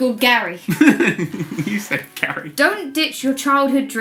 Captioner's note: laughs